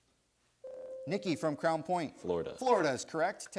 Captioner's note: buzzer sounds